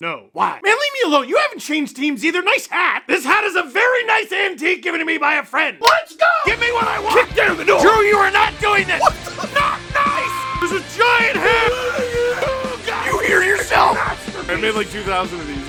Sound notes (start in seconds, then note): 8.7 screaming; 11.0 Harry potter screaming